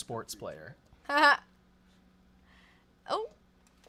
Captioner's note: laughs